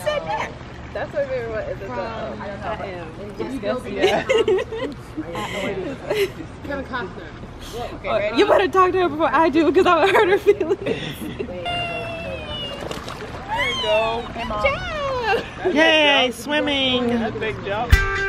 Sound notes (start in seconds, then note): 10.0 both laugh